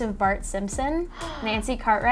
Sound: gasps

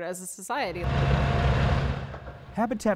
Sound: bulldozer going

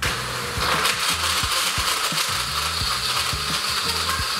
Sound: blender buzzing

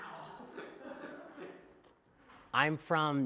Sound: laughter

